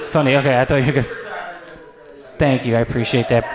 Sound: speaking softly

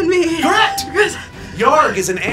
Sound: electronic bell chimes

